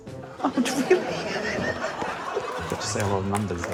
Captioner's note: laughs